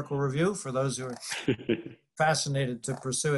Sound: laughter

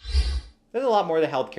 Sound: air swooshes

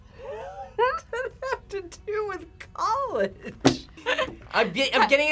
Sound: laughs

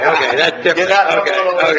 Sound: laughing

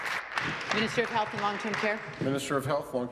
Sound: applause

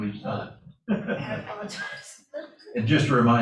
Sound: laughter

